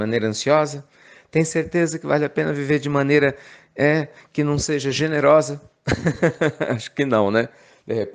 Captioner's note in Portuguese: Risos